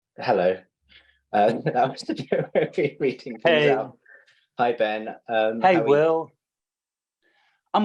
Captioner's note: laughter